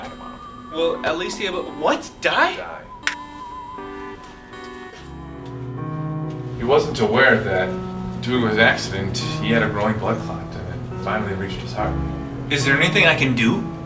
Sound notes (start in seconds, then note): 2.8 finger snap; 4.5 emotional instrumental music playing throughout